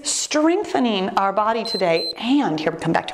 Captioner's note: timer beeps